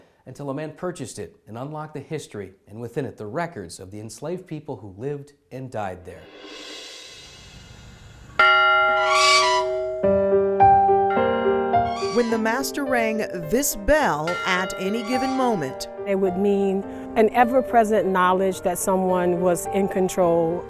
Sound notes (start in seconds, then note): 6.2 swoosh; 6.5 bell ringing; 8.8 creak